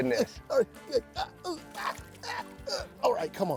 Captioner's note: grunting